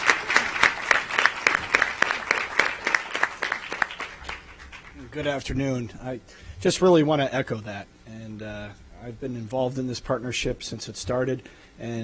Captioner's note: applause